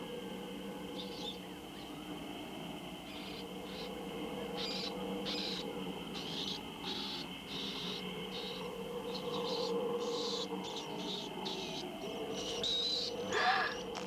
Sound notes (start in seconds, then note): 0.3 mice chittering; 9.3 chittering continues; 13.3 gasps